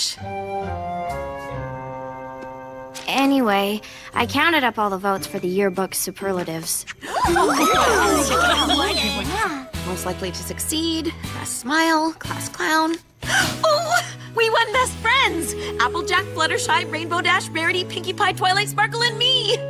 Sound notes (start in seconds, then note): 7.4 all squeal, speaking indistinctly; 12.8 gasps